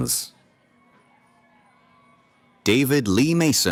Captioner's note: cheering